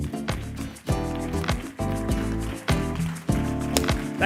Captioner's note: applause